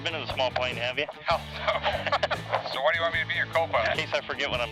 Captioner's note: laughs